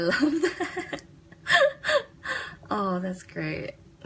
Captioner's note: laughs